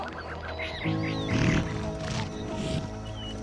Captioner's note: snorts